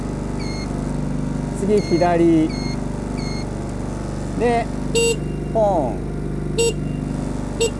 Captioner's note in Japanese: クラクション